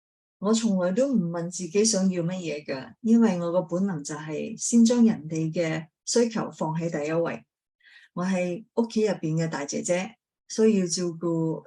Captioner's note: speaking chinese